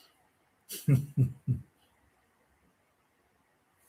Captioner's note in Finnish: naurua